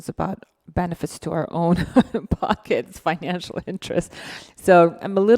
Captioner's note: laughing